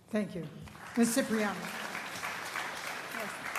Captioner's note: applause